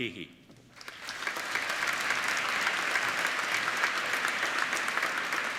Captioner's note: applauding